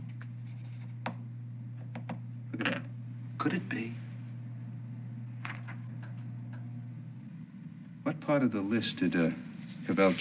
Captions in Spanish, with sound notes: [Tocando lápiz] [gotas de lápiz en el escritorio] ¡Mira ese! ¿Podría ser? ¿Qué parte de la lista revisó Cavel?